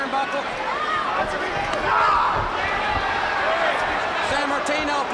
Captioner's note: crowd chatter